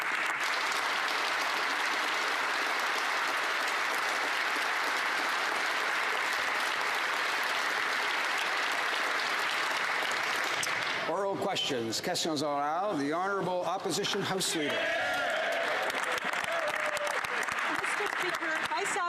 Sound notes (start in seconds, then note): 8.2 applause; 15.0 speaking French; 18.5 some Applause